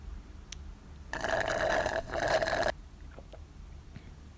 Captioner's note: sips tea